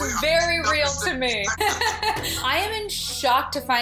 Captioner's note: laughs